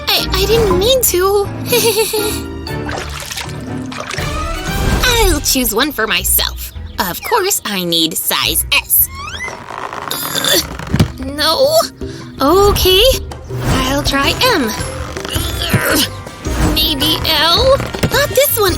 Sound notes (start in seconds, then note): 1.6 nervous laughter; 8.0 grunting; 11.2 grunting; 15.2 grunting